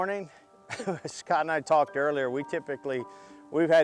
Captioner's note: laughs